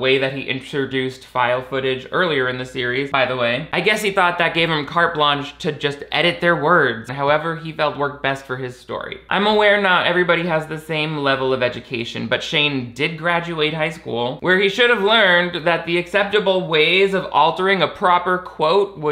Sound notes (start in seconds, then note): none